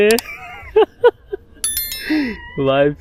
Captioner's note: laughing